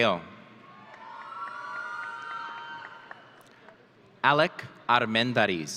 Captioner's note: audience cheering